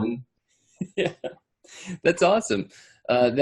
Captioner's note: laughs